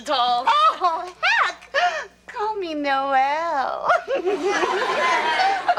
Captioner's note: laughs; audience laughs